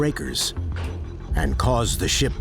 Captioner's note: breakers clacking